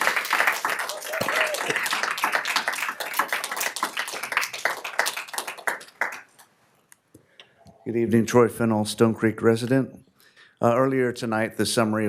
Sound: applause

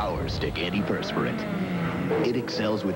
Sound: race car revs

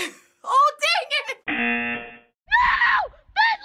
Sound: buzzer

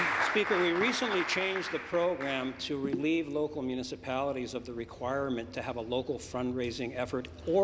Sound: applause

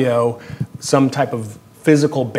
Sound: none

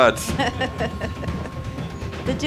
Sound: laughing

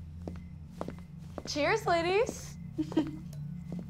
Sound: chuckles

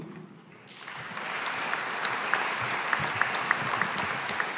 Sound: audience applauding

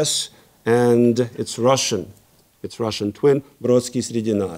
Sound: speaking in Russian

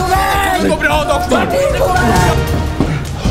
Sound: shouting in the background

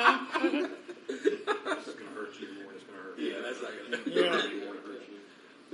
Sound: laughs

